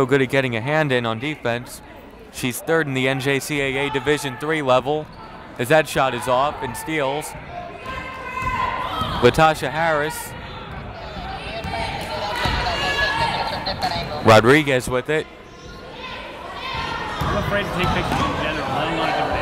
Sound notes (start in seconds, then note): 16.7 yelling